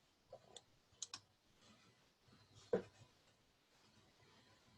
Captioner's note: mouse clicking